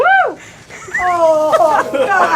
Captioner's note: laughing